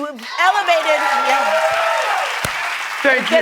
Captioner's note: applause